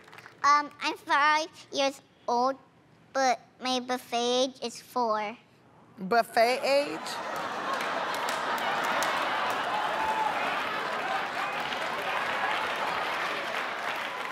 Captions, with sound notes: I'm 5 years old, but my buffet age is 4. Buffet age? [ Laughter ]